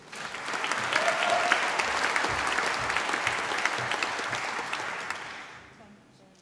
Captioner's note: applause